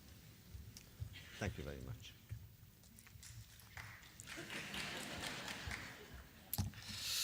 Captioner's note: applause